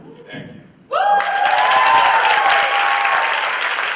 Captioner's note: applause